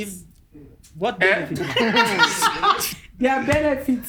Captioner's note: both laugh